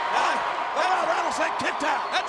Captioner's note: audience cheers